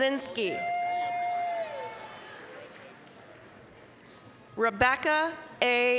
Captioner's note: applause, cheering